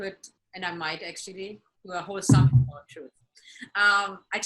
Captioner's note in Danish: bumping